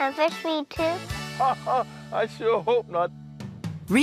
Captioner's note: laughs